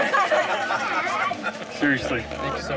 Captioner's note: crowd laughs